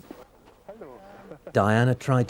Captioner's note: chuckles